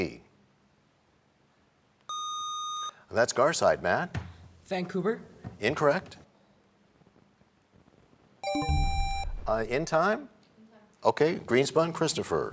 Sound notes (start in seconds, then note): 8.4 buzzer sound, bell chimes